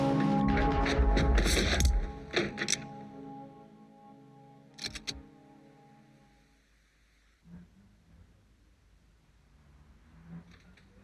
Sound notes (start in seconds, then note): 2.3 guns cocking